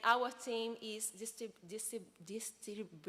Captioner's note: speaks portuguese